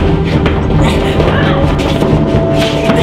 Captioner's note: both grunting